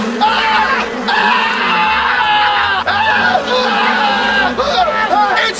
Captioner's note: screaming